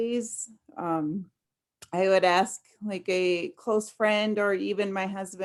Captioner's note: none